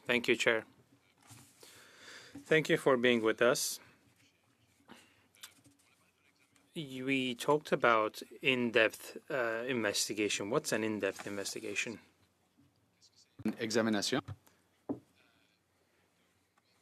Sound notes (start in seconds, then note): 3.6 speaking French